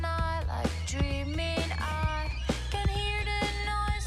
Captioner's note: whistling tea kettle